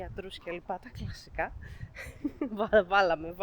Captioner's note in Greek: γέλια